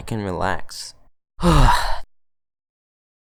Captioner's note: exhale